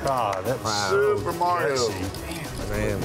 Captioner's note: clapping